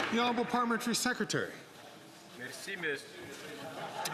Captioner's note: some Applause